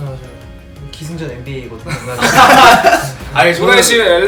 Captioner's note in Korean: 웃음